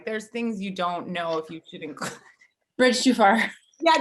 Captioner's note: laughs